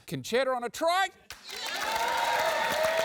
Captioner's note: cheering, applause